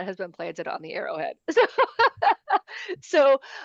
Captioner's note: laughter